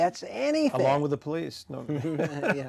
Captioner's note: both laughing